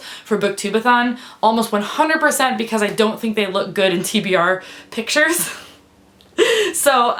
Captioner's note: laughs